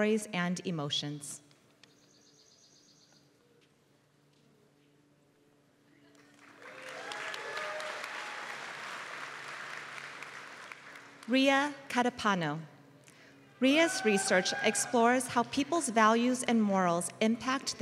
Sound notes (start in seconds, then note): 6.1 applause